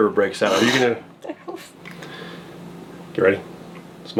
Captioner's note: laughing